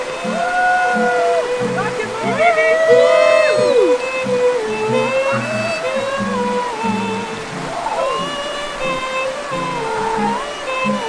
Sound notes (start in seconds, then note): 0.9 euphoric screaming